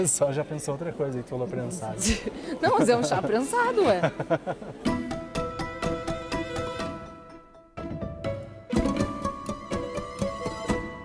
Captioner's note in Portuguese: risadas